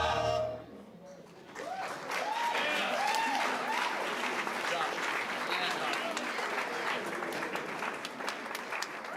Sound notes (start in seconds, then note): 1.4 applause, cheering